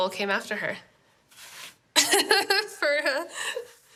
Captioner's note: laughs